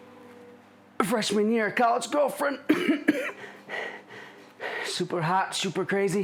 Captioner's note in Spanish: tosiendo